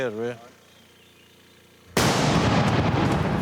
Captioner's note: explosion